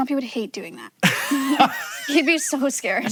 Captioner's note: Hank laughing